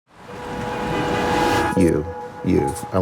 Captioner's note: traffic and horns honking